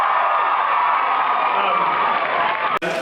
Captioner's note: cheers